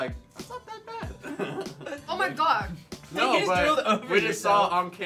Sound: spitting

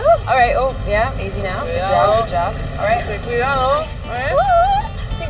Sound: Lupe speaks in Spanish

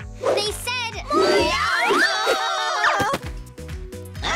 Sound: screaming

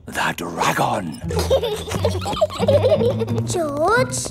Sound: both giggling

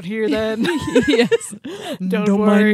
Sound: chuckling

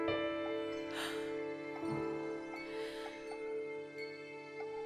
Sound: deep Breath

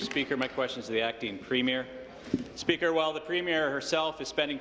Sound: applause

